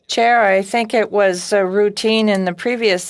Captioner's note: speaking FRENCH